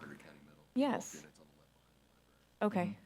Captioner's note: speaking faintly